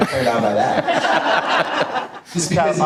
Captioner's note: audience laughing